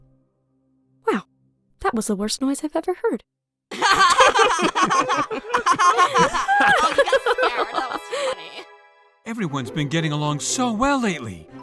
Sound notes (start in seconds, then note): 3.7 all laugh